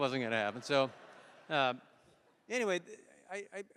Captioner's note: laughter